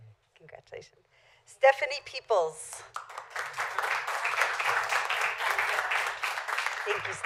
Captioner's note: applause